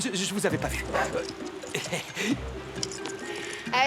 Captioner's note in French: aboiement